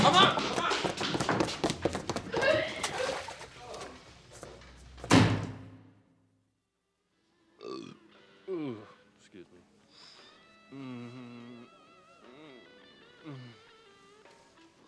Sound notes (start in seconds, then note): 2.0 Veda gagging; 7.8 Hand groaning